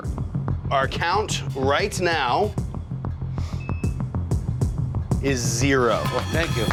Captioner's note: monitor beeping